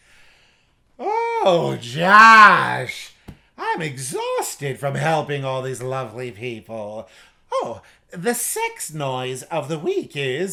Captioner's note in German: Walrossgeräusche